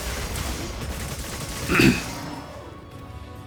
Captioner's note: clears throat